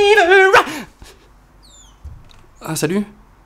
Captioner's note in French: chant